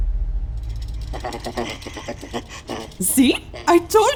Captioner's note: terrified shivering